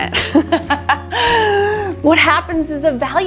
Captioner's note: laughing